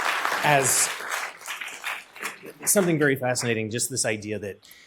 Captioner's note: applause